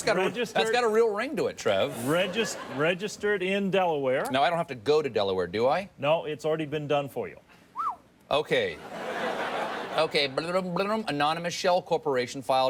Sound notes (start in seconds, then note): 7.7 whistles; 8.8 audience laughs